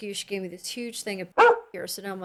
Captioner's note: bark